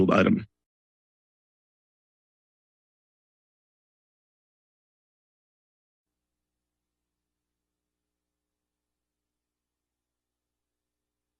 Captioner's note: silence